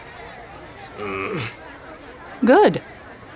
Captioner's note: Claudius grumbling